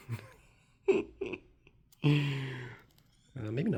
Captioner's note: silly giggling